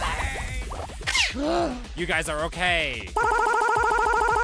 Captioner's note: gasp